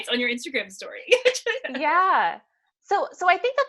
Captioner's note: laughs